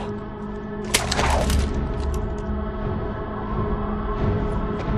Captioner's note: gun cocking